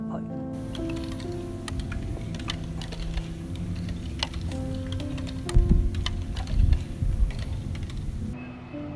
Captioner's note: clinking of metal against tile